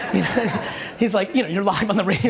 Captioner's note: audience laughter